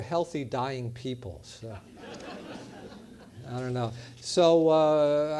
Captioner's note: laugh